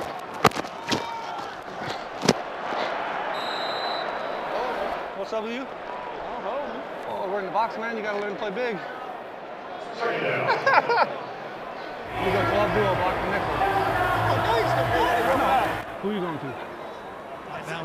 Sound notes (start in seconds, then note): 3.3 whistle blowing; 10.4 laughing